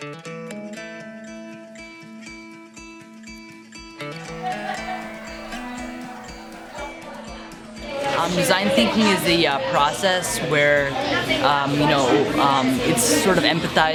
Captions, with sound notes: (happy guitar music) (children chatting) - Design thinking is the process where it's sort of empathizing with the user,